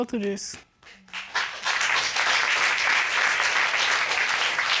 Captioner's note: applause